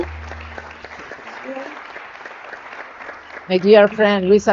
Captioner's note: audience clapping